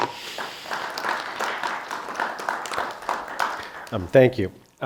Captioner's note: audience applauds